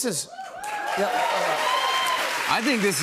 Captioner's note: cheers and applause